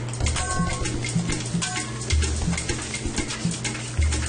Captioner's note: spatula clangs